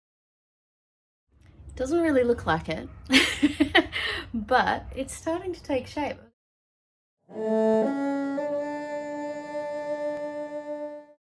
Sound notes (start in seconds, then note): 3.1 laughs; 7.3 three ascending cello notes, ending with a sightly clumsy vibrato